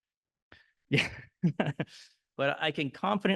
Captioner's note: chuckling